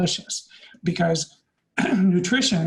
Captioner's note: clears throat